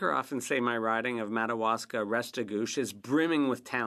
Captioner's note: speaking French